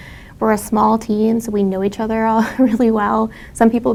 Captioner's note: laugh